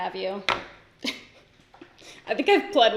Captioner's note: laughs